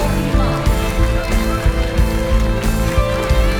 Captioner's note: applauses